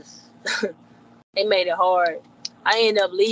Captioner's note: chuckling